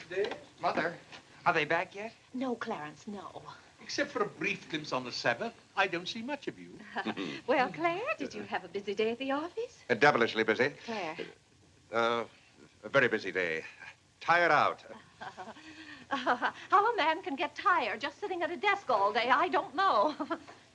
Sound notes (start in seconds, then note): 15.0 chuckles